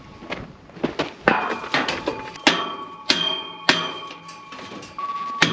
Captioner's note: hammer banging